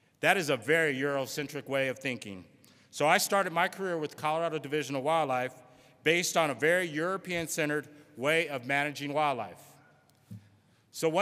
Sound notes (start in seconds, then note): none